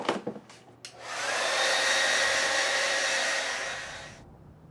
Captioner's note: hair blow-dryer starts again